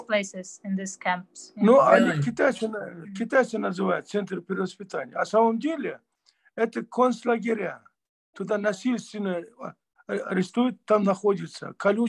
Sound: in Russian

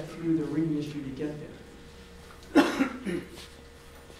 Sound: coughs

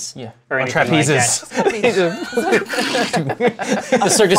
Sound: laughs; laughter

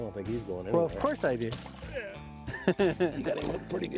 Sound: laughs

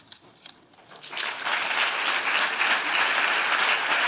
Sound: applause

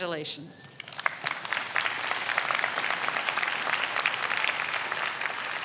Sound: audience applauds

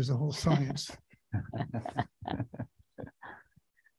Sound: laughs

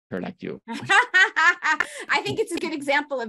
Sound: laughs

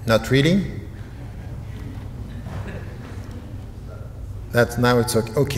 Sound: audience chatter

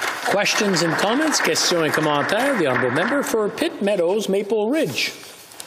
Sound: applause

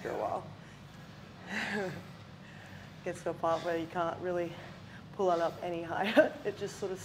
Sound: laugh

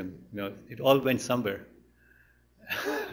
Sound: laughs

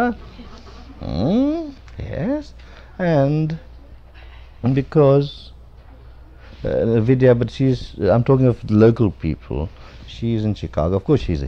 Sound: laughter

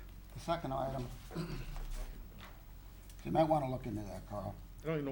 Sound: clears throat

